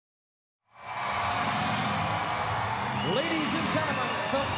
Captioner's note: crowd cheers